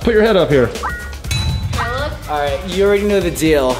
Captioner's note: series of dings